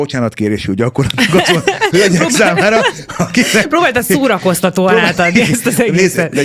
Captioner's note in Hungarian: nevetés